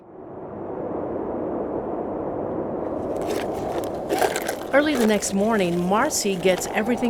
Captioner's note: wind rushing